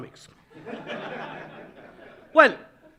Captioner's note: audience laughing